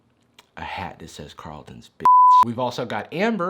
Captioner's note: beep